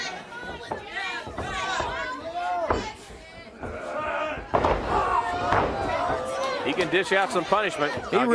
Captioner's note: crowd chatter